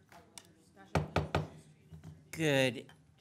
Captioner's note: gavel banging